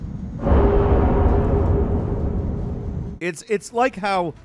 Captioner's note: metal banging